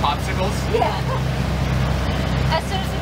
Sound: laughs

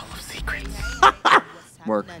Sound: Trixie giggles

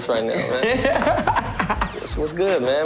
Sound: laughter

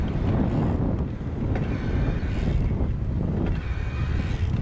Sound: gears clicking; rotor cranking

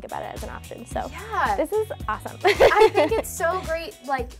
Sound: laughs

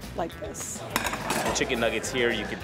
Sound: clattering

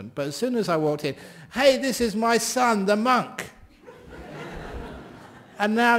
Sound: laughter

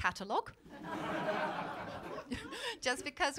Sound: laughter

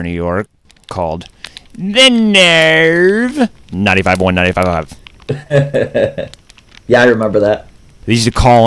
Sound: laughs

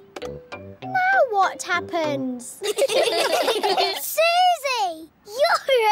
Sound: all giggling

